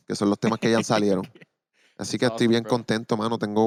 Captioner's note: laughing